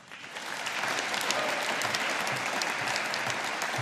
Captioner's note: audience applauding